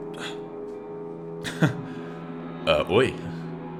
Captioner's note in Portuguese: risada